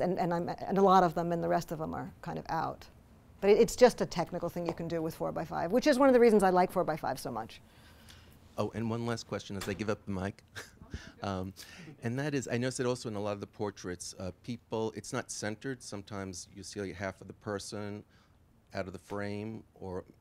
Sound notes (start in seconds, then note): 8.7 voiceover; 10.5 laughs